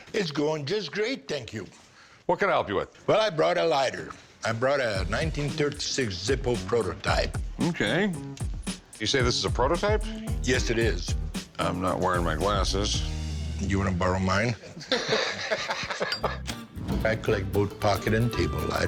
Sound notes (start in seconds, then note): 14.6 laughter